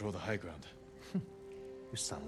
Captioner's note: laugh